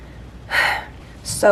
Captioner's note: sigh